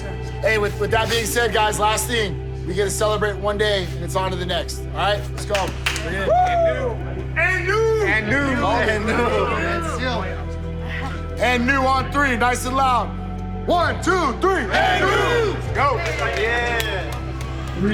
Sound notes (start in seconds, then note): 6.2 man whooping; 8.4 group saying collectively